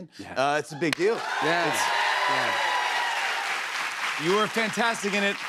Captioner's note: cheers and applause